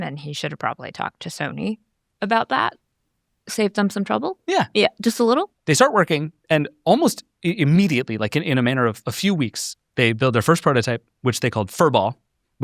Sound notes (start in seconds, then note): none